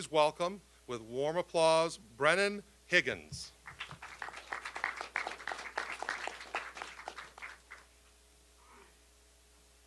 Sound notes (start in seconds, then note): 3.6 applause